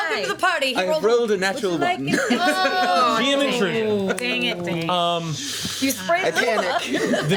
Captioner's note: overlapping chatter